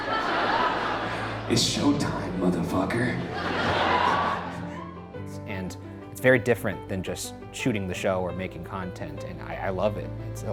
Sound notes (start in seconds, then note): 0.0 audience laughs